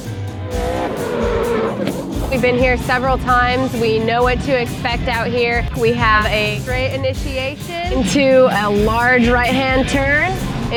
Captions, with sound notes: (engine roars) We've been here several times. We know what to expect out here. We have a straight initiation into a large right-hand turn,